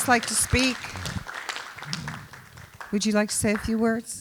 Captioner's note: applause